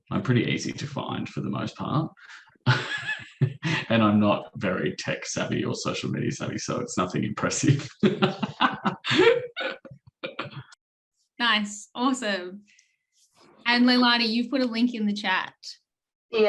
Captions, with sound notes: I'm pretty easy to find for the most part. (chuckles) And I'm not very tech savvy or social media savvy, so it's nothing impressive. (laughs) - Nice, awesome. And, Leilani, you've put a link in the chat.